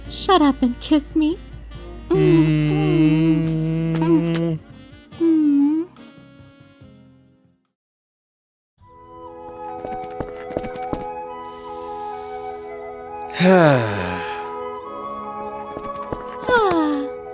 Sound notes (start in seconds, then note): 2.1 kissing noises; 13.3 deep breath; 13.3 exhale; 16.4 sighs contentedly